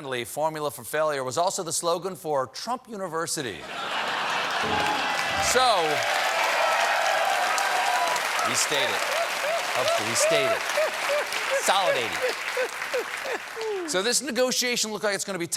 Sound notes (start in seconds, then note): 4.0 cheers and applause